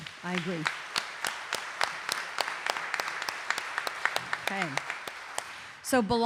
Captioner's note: audience applauding